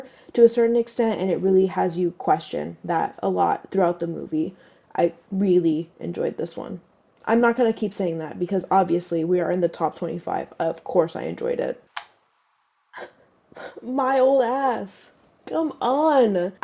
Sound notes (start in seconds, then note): 11.9 laugh; 11.9 clap